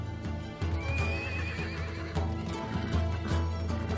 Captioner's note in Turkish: At kişneme sesi